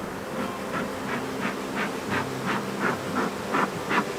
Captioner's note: pumps bee smoker